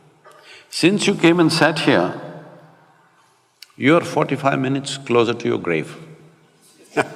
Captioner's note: Matthew laughs